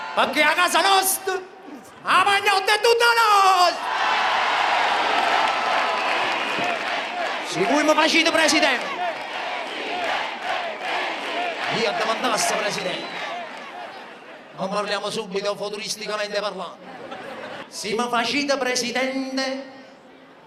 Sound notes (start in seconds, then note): 3.8 applause; 9.3 choruses from the crowd